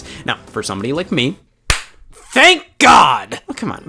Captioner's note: claps